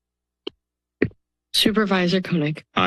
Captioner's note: silence